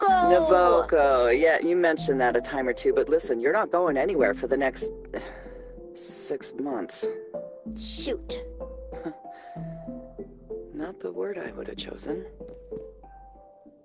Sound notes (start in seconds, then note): 9.1 scoffs